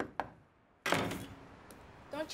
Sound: knocking; banging

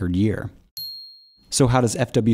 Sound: ding

